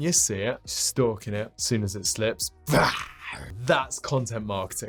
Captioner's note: growls